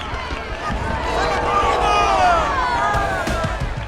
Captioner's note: indistinct chatter